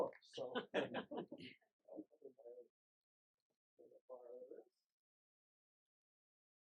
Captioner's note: group laughing